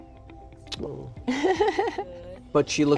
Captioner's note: laughs